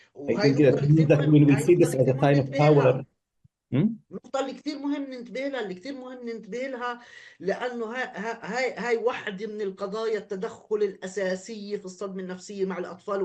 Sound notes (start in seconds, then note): 3.9 speaking arabic